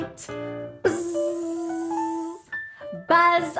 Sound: buzzing

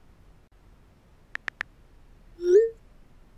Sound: clicking

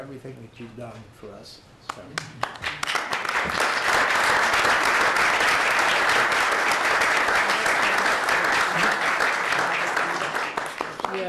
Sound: clapping

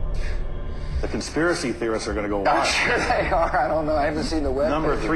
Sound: laughing

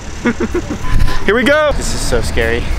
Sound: laughing

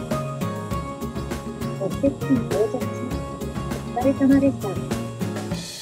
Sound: NAVI voice

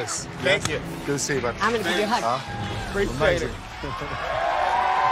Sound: crowd cheering

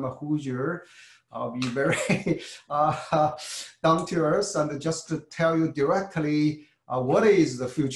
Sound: laugh

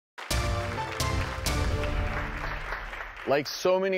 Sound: applause; dramatic music

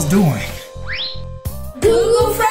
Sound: screen whistles

